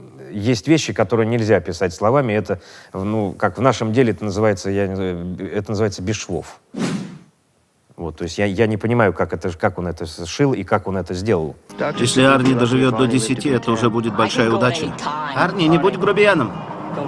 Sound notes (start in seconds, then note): 11.7 voice-over